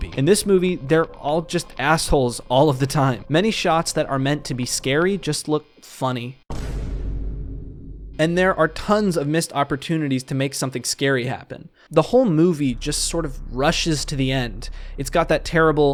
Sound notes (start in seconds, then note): 10.3 stock “boom” sound